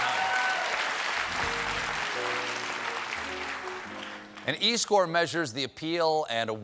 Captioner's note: applause